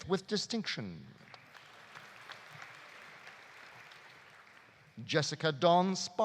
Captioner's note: audience applauding